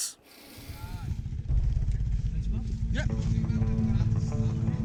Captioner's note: motor whirring